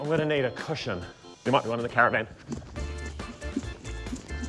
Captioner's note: none